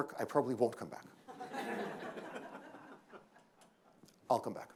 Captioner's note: laughter